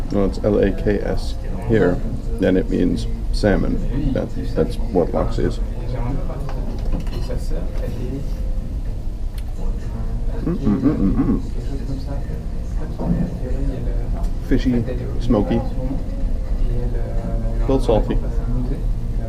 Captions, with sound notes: Wells its L A K S here. and it means salmon. That's what laks is. [Pleased grunting] Fishy. Smokey. A little salty.